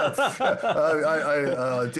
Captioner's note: laughter